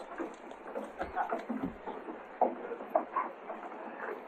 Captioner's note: bystanders chattering